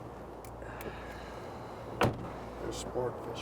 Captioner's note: Addison sighs; car door thuds shut